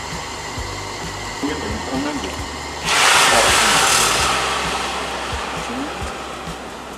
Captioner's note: grilling